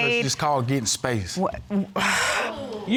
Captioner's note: sighs